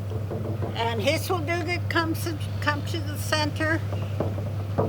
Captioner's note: in Gitxsan